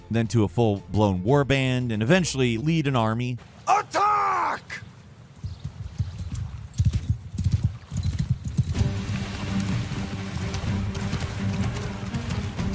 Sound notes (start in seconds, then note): 4.9 horse hooves cantering; 5.5 river burbling; 8.7 dramatic orchestral music